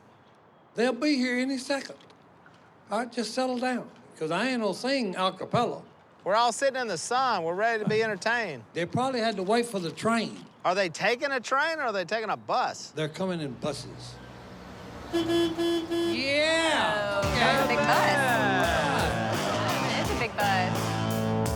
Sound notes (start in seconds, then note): 14.8 horn sounding